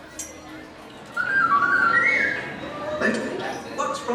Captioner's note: R2-D2 beeping